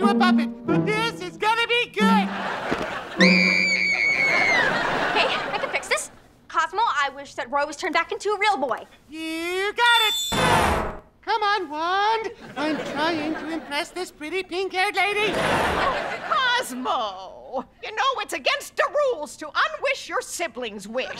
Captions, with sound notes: But this is gonna be good. [screaming] Okay, I can fix this. Cosmo, I wish that Roy was turned back into a real boy. You got it. Come on, wand! I am trying to impress this pretty, pink-haired lady. Oh, Cosmo. You know it's against the rules to unwish your sibling's wish.